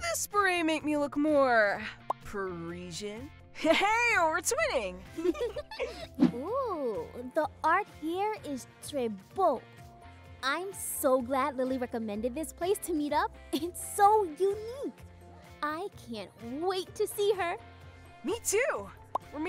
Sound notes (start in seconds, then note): 5.2 laughing; 8.2 speaking in French